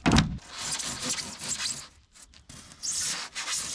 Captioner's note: foam scraping